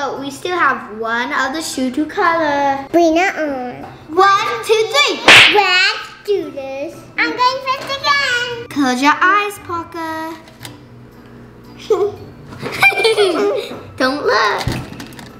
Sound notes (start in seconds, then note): 5.3 claps; 9.5 slow-paced quirky music; 12.6 laughter